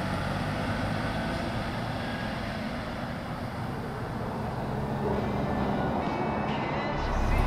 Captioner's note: car engine roaring